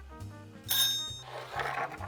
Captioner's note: peppercorns dropping